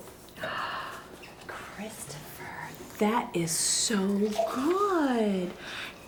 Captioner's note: gasps